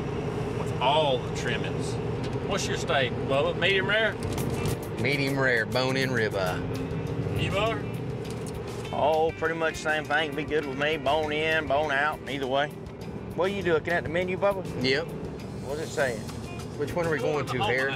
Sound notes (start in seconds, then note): none